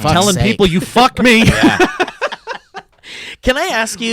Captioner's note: laughs